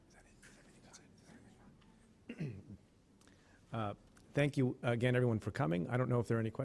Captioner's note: clears throat